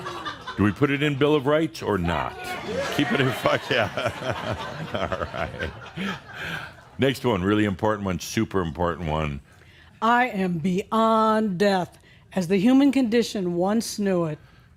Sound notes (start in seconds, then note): 0.0 more laughter; 2.1 audience shouts “Yeah!!” and laughter; 6.2 Adamus chuckles